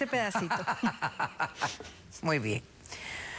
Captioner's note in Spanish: risas